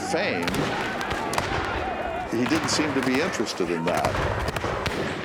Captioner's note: rifles firing